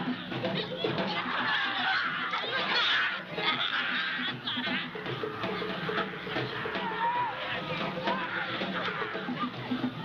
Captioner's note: crowd cheering